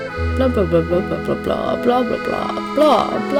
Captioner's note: irrelevant drawl